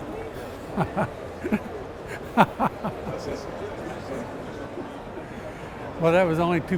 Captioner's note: laughs